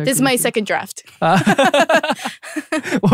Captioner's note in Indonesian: ketawa